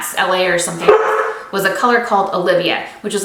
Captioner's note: Nyx barks